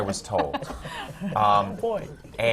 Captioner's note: laughter from the panel